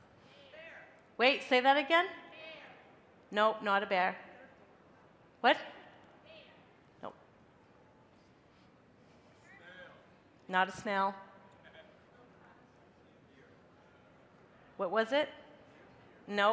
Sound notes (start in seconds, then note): 0.7 crowd; 5.9 crowd; 8.5 crowd